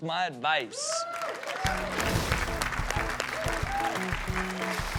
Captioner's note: cheering